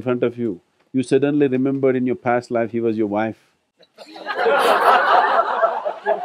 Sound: laughter

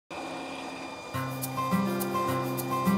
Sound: sound of lathe spinning

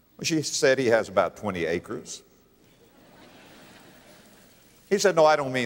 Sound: audience laughter

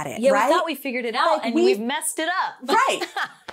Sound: laughs

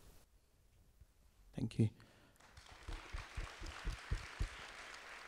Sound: audience applause

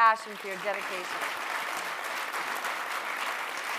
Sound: applause

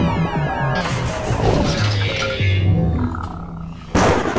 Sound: UFO buzzing; electricity fizzling; thunder rumbling

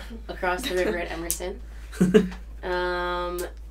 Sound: chuckles

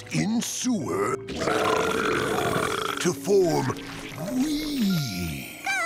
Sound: burping

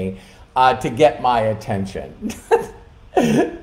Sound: laughing

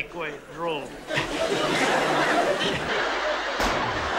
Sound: laughter

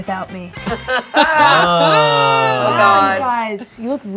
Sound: group laughing and exclaiming

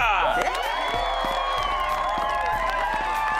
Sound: cheering

